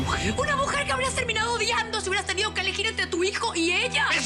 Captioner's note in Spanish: none